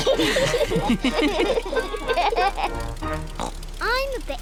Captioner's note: oinks